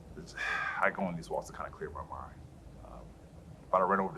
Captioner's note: sighs